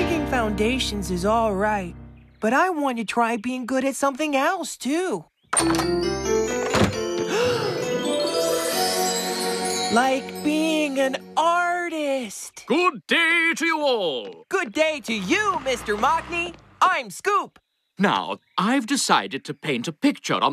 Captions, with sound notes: DIGGING FOUNDATIONS IS ALL RIGHT, BUT I WANT TO TRY BEING GOOD AT SOMETHING ELSE TOO... ( Door Slams ) ( Gasps ) ...LIKE BEING AN ARTIST! GOOD DAY TO YOU ALL! GOOD DAY TO YOU, MR. MOCKNEY! I'M SCOOP. NOW, I'VE DECIDED TO PAINT A PICTURE